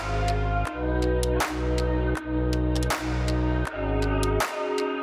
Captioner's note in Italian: Applauso